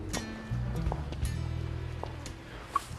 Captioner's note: footsteps